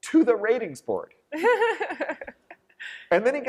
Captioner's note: laughter